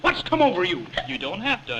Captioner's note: hiccup